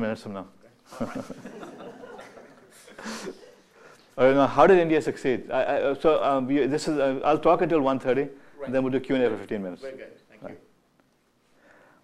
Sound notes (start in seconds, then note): 0.8 laughter